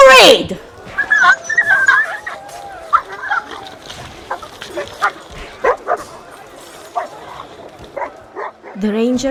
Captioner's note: fighting noises